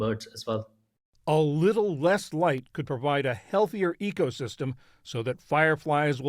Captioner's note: voice-over